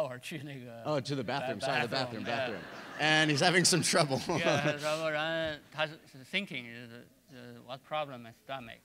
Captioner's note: speaking in Chinese; laughter